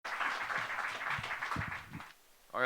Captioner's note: applause